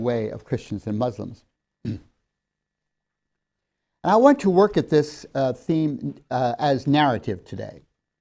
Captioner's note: clears throat